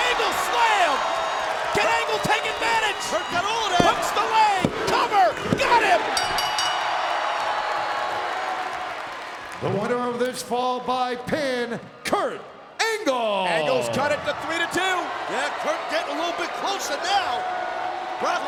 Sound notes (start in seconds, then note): 6.1 bell rings; 6.8 audience cheers